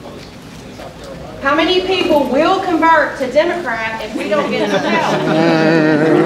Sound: crowd chattering; crowd clapping

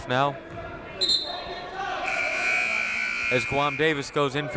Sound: buzzer; whistle

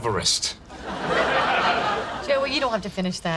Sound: audience laughing

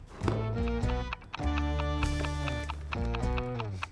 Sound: ticking

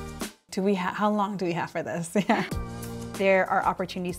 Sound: chuckles

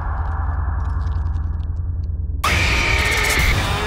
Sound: scream

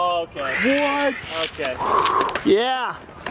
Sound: fingerboard scraping

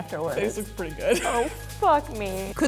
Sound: laughing

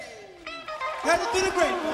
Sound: audience applauding

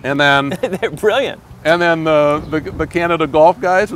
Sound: laughs

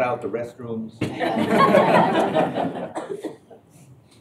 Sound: laughter

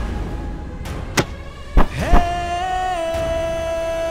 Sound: thump

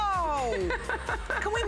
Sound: laughter

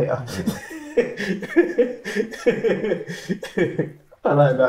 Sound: laughing

